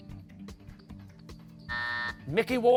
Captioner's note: buzzer